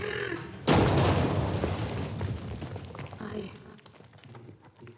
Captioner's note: crash